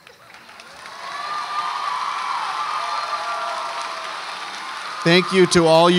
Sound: audience applauds and cheers

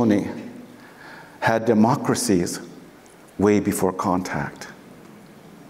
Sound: foreign speaking

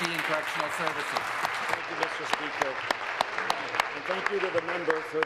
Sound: applause

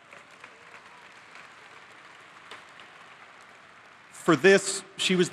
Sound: applause

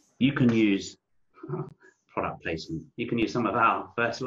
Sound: chuckles

